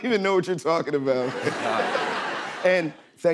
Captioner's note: laughter